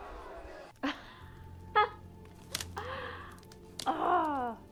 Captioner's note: Alison laughing